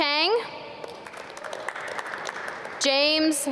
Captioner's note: audience clap